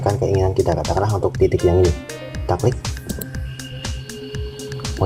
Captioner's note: click